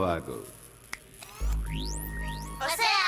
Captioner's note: snaps fingers